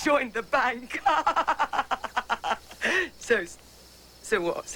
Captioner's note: laugh